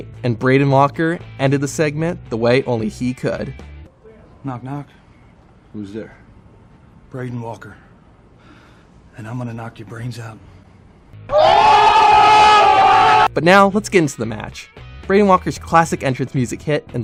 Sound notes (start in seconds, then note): 11.2 crowd screams